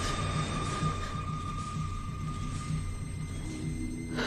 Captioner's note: monitor beeping